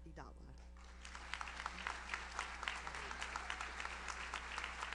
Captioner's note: audience applauds